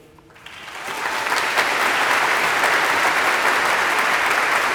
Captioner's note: audience applauds